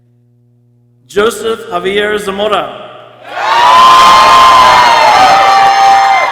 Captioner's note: people cheering